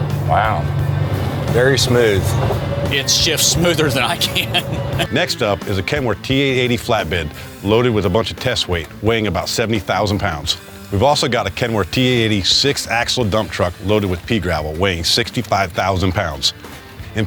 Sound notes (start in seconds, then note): 3.0 driver laughs